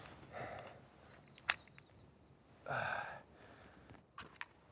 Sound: person sighing

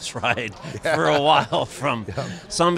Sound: chuckles

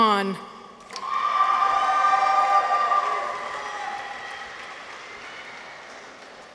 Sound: people cheer; audience applauds

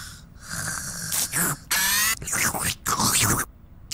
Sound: slurping Continues

